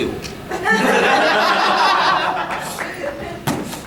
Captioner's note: audience laughing